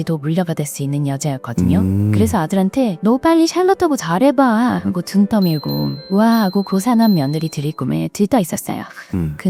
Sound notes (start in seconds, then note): 5.9 laughs